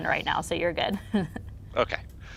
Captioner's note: laughs